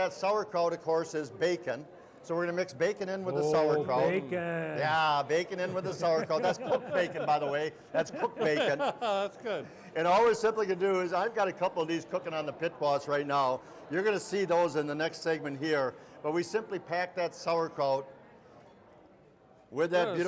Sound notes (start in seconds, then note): 5.6 laughing; 8.7 laughing